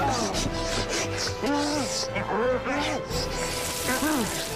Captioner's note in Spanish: Exclamaciones